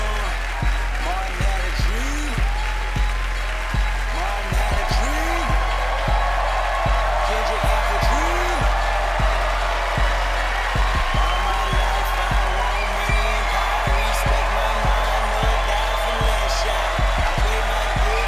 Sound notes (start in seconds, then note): 7.1 audience applauding, cheering